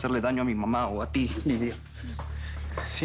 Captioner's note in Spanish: none